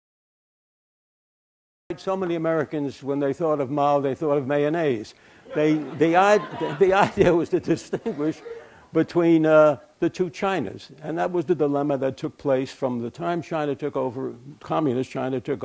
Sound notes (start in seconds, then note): 5.5 laughter; 7.9 chuckle